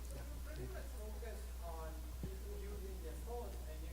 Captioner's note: voiceover